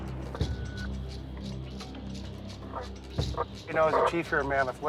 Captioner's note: radio beeping